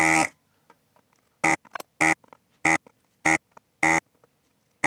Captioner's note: buzzer